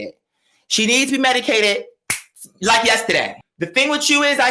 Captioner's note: snaps finger